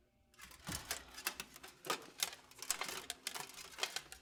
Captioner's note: armor clanking